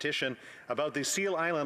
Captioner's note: speaking french